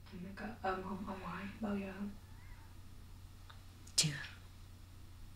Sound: speaking foreign language

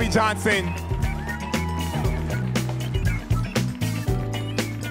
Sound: audience cheering

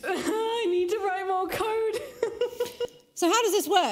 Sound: laughs

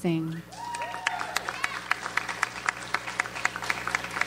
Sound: audience applauds

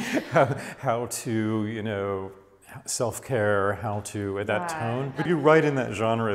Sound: laughs

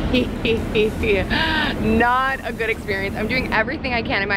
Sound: laughs

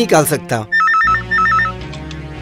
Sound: phone rings

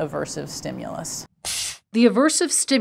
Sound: machine blasting air

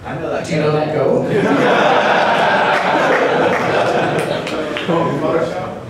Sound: laughter

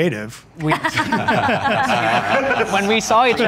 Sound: laughs

